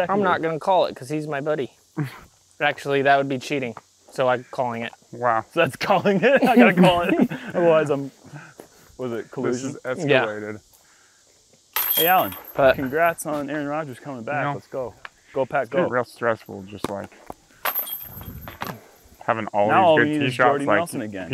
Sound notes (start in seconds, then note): 5.9 laughs